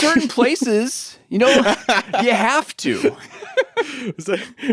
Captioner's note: laughs